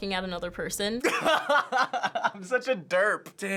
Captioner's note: laughing